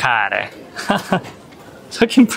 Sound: laughs

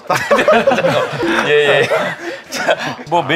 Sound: haha

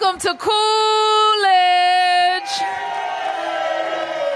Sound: applause

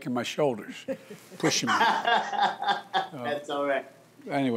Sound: laughs

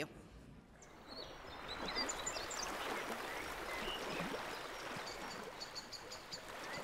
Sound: birds chirping; water bubbling

